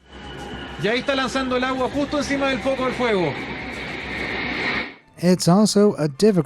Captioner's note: speaking in foreign language